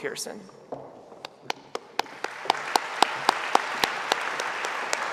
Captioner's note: audience applauding